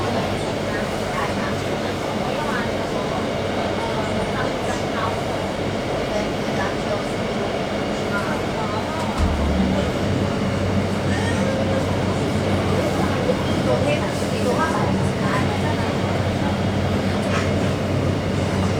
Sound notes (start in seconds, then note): 9.0 pantograph sound